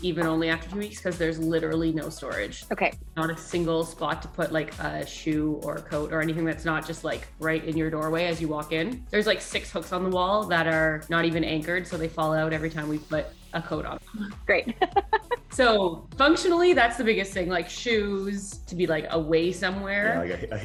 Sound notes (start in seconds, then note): 14.4 laughs